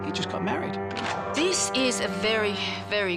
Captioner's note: gun cocks